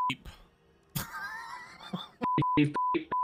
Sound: chuckles

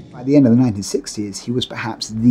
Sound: echoing

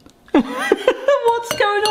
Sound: laughs

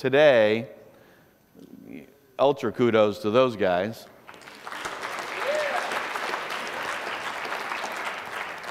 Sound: applause

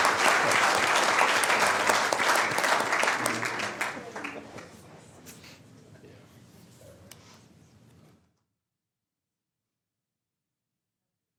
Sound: applause

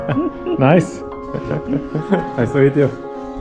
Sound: laughs; calm piano music continues

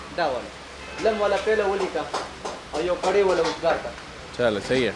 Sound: speaks Pashto

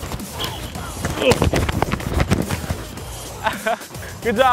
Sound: pads crunching; grunting; laughing

